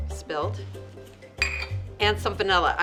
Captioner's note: clanking